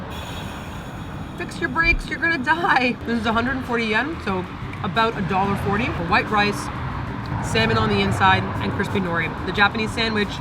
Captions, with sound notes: Fix your brakes, you're gonna die (car in background) . This is 140 yen. So about a $1.40. White rice, salmon on the inside and crispy nori the Japanese sandwich